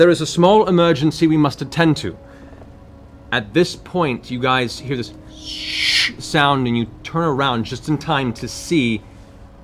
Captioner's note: whoosh